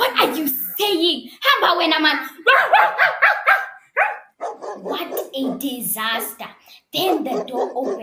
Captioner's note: barks loudly